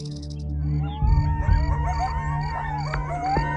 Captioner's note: howling, crickets chirping